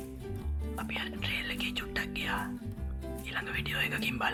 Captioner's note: whispers